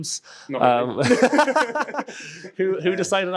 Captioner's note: all laughing